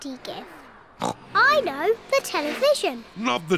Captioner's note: oinks